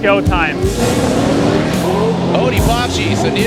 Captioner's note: engines roaring